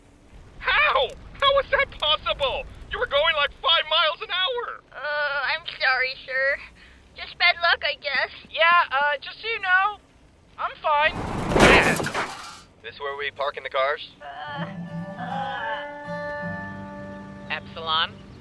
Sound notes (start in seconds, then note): 11.3 smack!